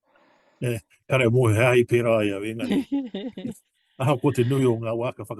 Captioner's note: speaks te Reo Māori